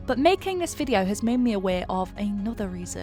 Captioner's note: none